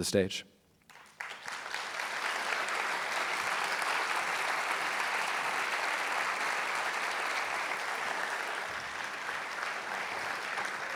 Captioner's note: applause